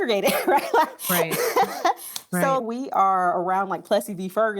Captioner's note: laughs